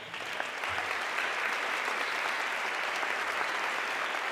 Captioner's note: audience clapping